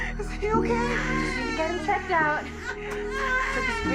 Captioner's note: baby crying